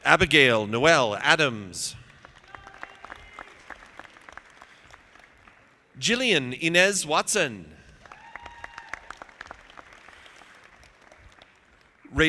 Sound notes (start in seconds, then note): 1.9 audience clapping; 7.9 audience applauding